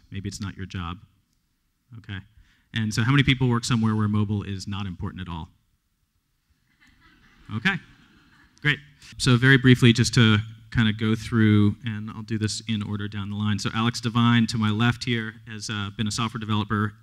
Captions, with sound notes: Maybe it's not your job. OK. And so how many people work somewhere where mobile is not important at all? [LAUGHTER] OK, great. So very briefly, just to kind of go through-- and I'll do this in order down the line. So Alex Devine, to my left here, has been a software developer